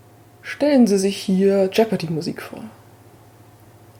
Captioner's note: in a narrator's voice